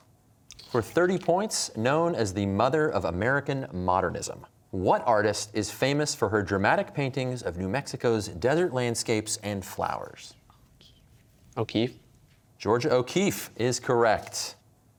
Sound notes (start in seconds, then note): 10.6 whispering